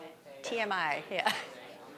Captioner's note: chuckling